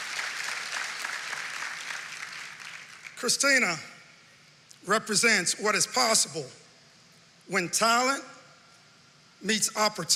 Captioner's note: applause